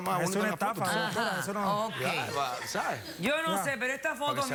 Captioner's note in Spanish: risas del público